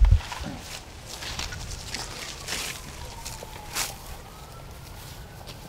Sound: grass rustling

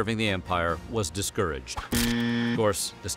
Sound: buzzer

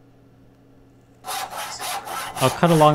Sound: saw scraping

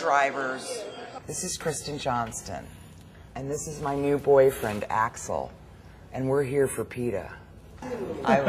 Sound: laughter

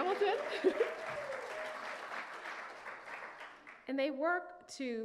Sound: audience clapping

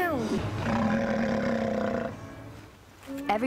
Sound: bear snarl

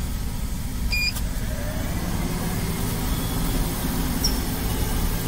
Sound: vehicle beeps

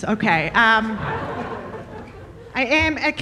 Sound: audience laughing

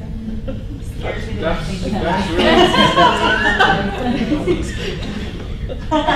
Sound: laughing

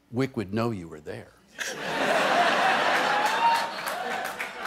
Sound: laughter

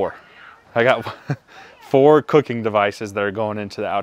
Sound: laughs

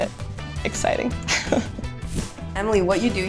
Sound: laughs

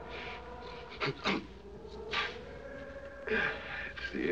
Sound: sneezes, Sniffles

